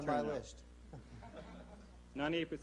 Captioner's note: laughter